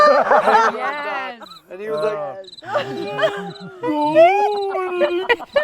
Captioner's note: person shouting